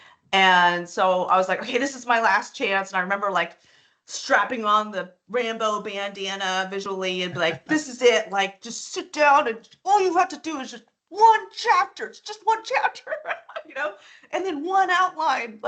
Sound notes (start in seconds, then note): 7.3 chuckling; 13.1 laughing